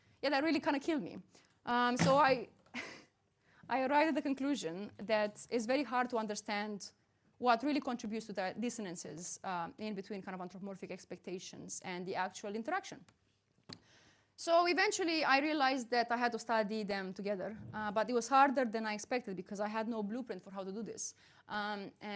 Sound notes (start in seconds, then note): 2.7 chuckles